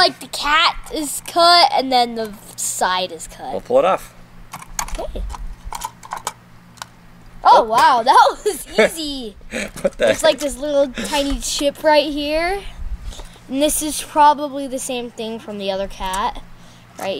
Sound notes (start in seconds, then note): 9.6 laughter